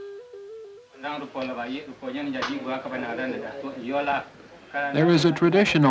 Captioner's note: Indonesian speech